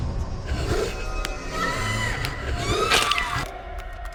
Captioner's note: Marie screams